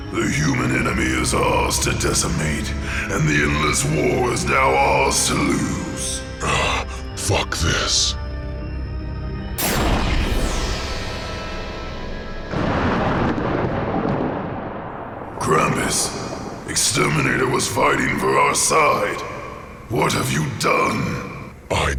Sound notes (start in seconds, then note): 9.6 gun fires; 12.6 ship explodes